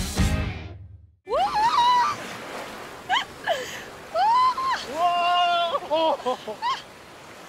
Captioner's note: cheering